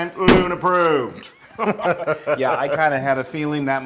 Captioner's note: laugh